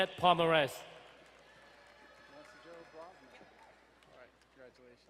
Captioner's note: crowd cheering and applauding